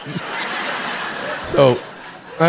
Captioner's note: audience laughing